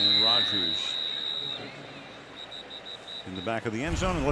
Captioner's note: whistle